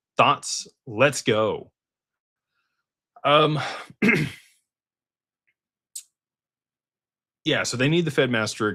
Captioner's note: clears throat